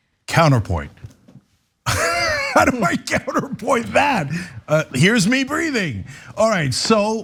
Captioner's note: laugh